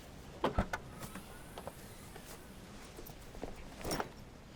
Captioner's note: car boot clicks